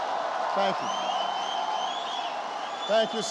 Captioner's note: applause